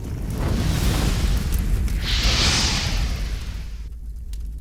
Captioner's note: fire exploding